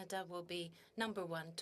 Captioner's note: speaking in French